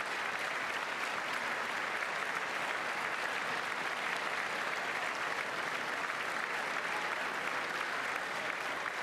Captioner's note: applause